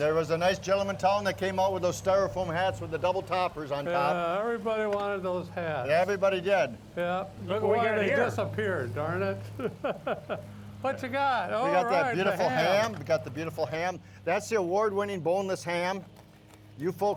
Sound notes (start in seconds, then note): 9.2 chuckles